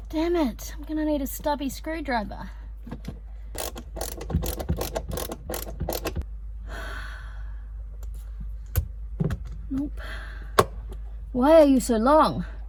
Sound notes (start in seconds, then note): 3.5 ratcheting screwdriver again; 6.6 sighs heavily; 8.7 screwdriver bumps sides of narrow space